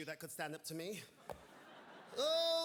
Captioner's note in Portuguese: audience laughing